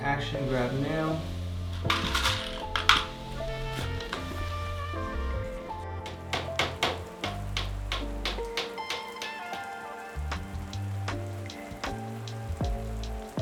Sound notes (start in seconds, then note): 6.1 hammering nail steadily; 8.7 easy-going rhythmic music continues